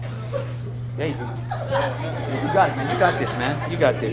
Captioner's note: students chattering